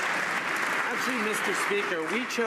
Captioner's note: some Applause